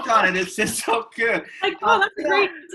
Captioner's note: laugh